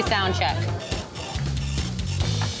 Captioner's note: tickets printing